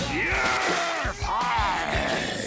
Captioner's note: crowd cheering